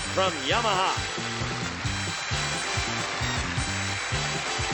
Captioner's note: applause, theme music